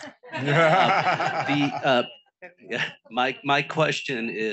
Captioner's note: audience laughing